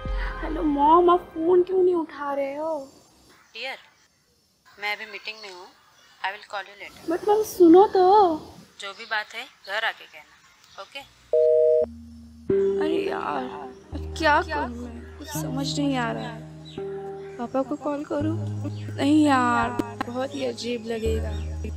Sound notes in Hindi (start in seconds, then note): 11.4 फोन कॉल कट